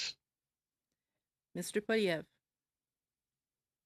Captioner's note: speaking in French